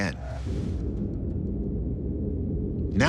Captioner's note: underwater volcano droning